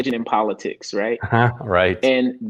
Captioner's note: chuckles